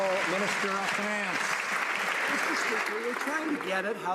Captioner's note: some Applause